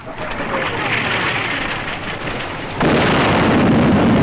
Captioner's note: shell Incoming